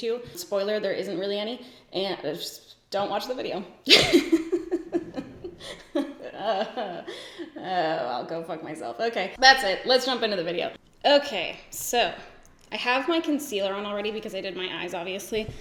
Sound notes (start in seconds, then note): 3.9 laughs